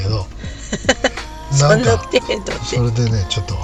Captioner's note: laughs